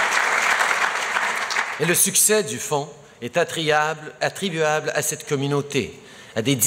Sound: applause

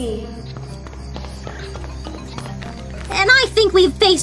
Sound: footsteps on stone running back

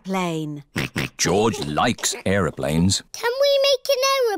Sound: snorts

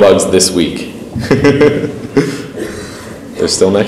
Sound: laughs

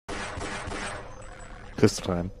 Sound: gunshots

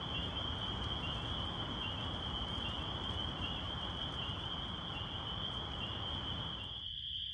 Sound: peepers chirping

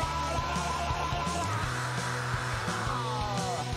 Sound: screams

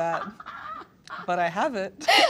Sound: laughter

